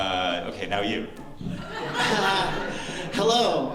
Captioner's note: laughter